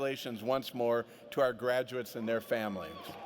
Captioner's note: applause